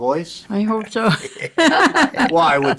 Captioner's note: chuckling